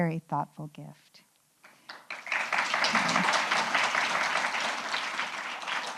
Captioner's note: applause